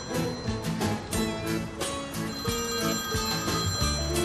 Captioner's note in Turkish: telefon çalıyor